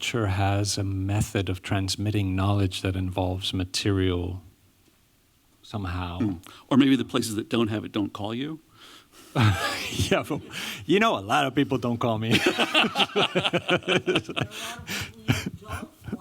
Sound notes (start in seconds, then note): 9.3 laughter; 12.3 laughter